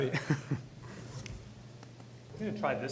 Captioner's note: chuckles